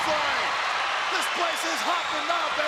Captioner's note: audience cheering